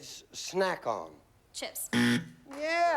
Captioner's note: buzzer